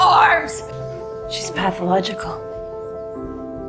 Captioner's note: shouting; voiceover